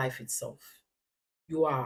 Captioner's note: paause